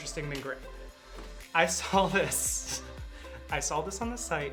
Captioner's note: laughing